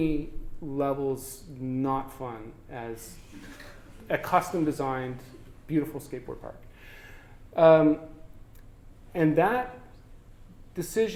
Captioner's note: audience: Laughter